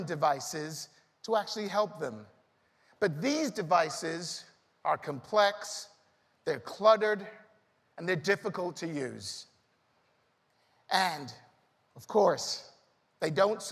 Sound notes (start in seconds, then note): none